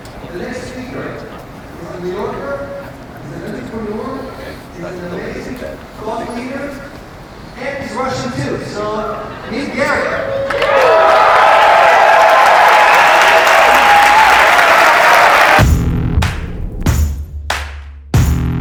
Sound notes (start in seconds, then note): 10.1 crowd applauding; 15.7 hip hop music